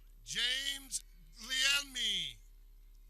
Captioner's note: none